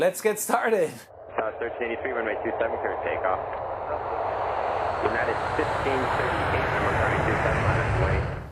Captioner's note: ATC radio playing